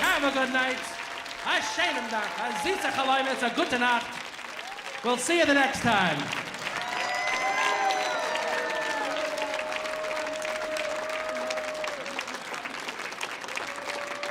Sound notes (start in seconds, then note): 1.6 speaking in foreign language; 6.8 audience applauding; 6.8 audience cheering